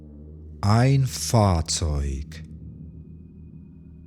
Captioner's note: german